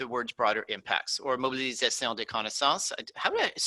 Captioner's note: speaking in foreign language